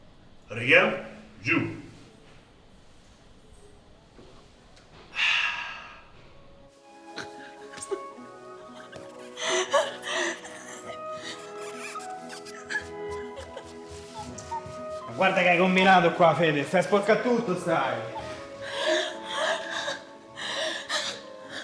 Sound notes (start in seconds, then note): 5.1 exhales; 8.4 moans